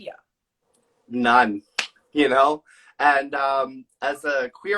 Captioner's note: claps